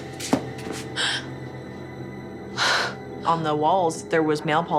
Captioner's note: gasps